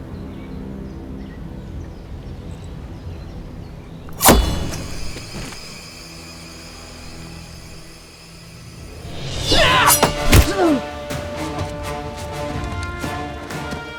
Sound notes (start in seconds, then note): 4.1 knife whooshes